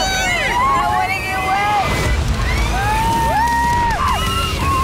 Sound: yelling and screaming

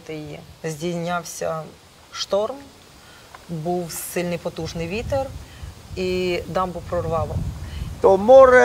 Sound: distant thunder

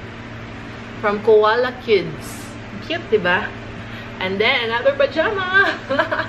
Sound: laughs

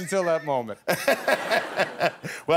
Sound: laughter

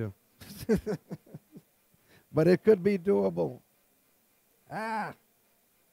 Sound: laughs

